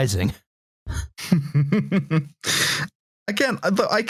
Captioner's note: chuckles